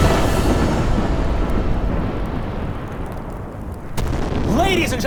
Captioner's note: thunder rumbling